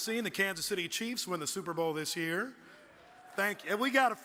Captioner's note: audience cheers